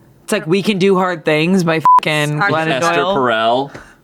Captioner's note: beep